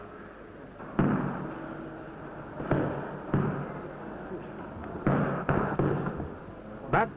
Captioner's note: punching bag being hit